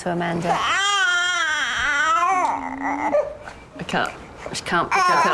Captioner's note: baby crying